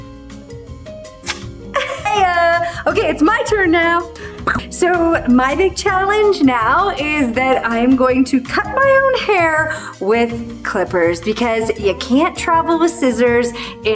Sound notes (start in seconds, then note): 1.7 chuckles; 2.8 exclaims